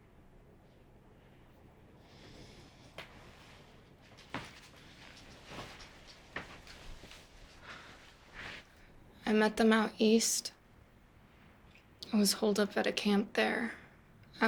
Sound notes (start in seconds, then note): none